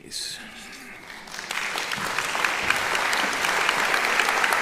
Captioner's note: applauding